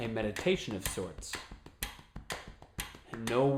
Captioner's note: tapping and ticking sound